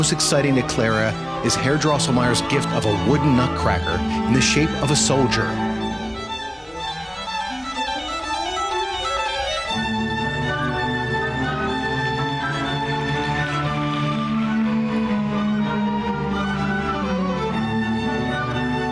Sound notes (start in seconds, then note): 7.4 lively orchestral music; 12.4 audience applauding; 15.3 lively orchestral music